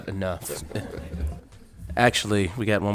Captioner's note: council members laughing